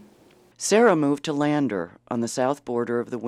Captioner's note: voiceover